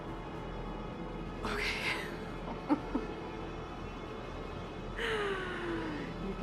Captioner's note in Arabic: يضحك